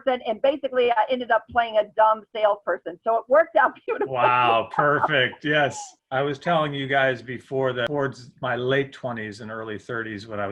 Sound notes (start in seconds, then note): 3.8 laughs